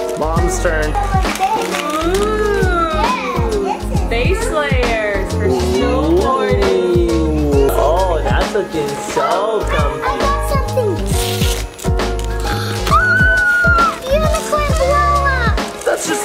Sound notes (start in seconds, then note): 12.8 screams